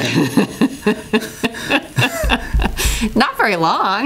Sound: laughs

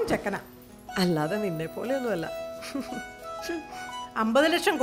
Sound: chuckles

